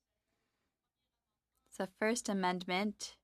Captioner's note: speaking French